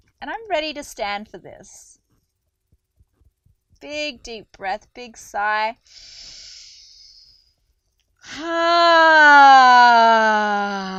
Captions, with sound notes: I'm ready to stand for this. Big deep breath, big sigh. (inhales deeply) Ha.